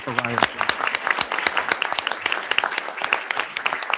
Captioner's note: audience applauding